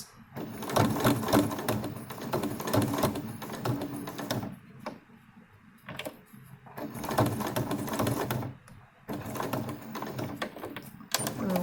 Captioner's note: machine noises